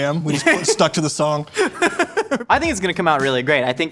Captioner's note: laughs